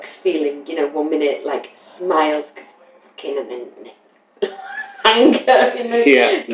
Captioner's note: laughter